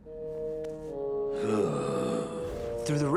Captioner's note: sighing